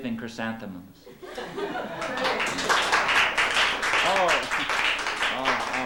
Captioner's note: laughter, applause